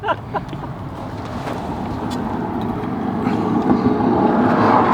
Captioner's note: laughs; cars passing